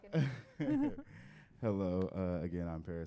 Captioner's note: group members laughing